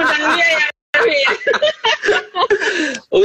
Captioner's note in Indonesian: Tertawa